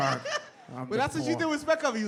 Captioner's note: laughs